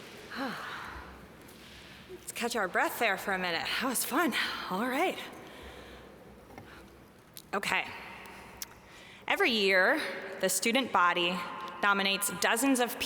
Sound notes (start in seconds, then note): 0.3 sighs